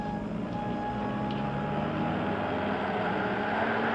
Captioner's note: engine rumbles